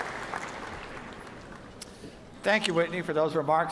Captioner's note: cheers and applause